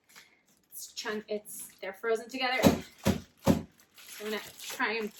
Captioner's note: thump thump thump